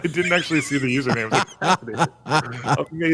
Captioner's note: laughter